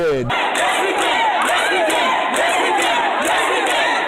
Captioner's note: crowd